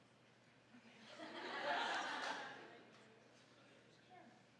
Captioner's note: audience laughing